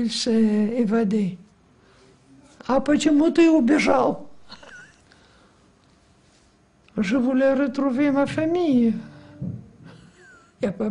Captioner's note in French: Langue étrangère